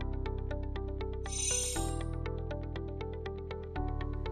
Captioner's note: chiming